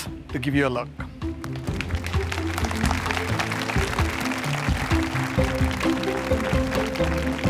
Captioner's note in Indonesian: Tepuk tangan